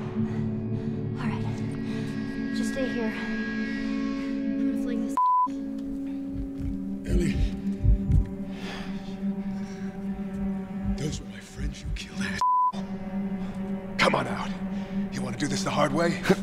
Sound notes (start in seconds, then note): 6.2 Joel's heart thumps